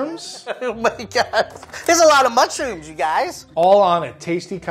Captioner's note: laughs